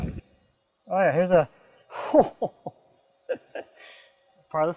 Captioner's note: laughing